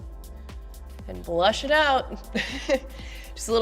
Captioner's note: laughing